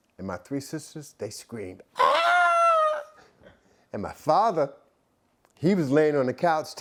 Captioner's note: screaming